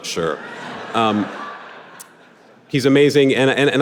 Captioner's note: audience laughing